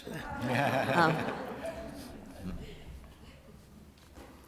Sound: laughter

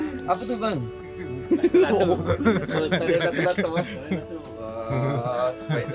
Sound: laugh

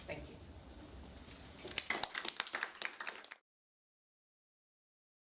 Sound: applause

